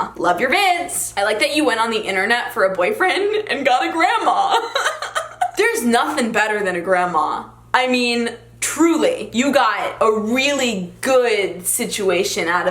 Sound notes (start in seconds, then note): 4.5 laughs